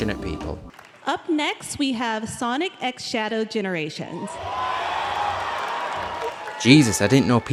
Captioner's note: crowd cheers